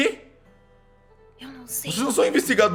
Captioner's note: whispering